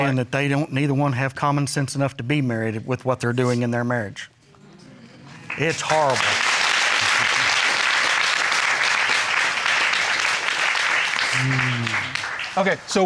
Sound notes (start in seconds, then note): 6.4 applauding